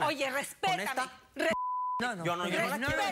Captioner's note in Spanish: Bip